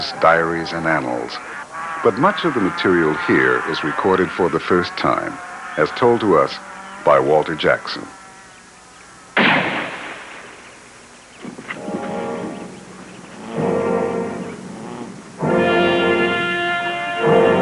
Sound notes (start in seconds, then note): 9.3 gunshot; 10.7 hooves beating; 13.1 ominous music